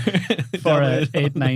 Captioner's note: laughing